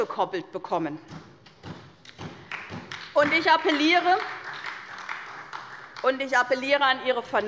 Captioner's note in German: Beifall bei der SPD